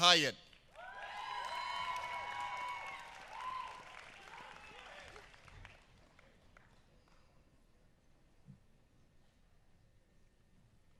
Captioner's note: applause